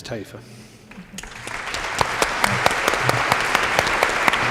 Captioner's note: applause